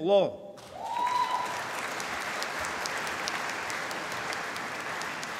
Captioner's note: applause